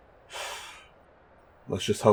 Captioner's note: big sigh